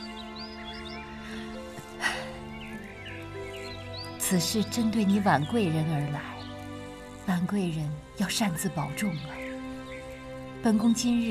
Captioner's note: huff